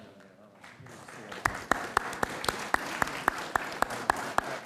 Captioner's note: audience applauds